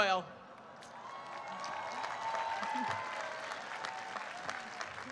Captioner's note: applause and cheers